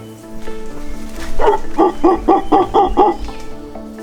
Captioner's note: howler monkey sounds